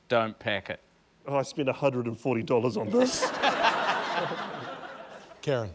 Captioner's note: laughter